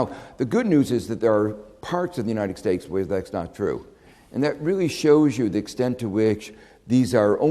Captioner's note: none